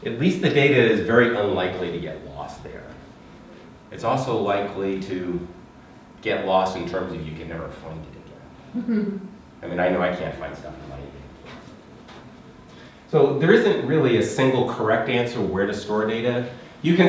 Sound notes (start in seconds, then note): 8.7 student laughing